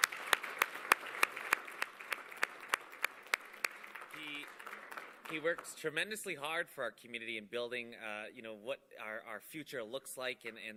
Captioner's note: applause